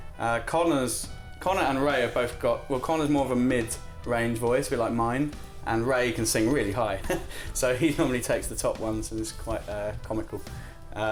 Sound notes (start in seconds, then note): 7.0 laughs